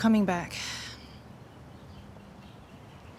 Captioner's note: sighs